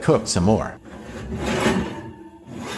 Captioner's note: more Metallic Sounds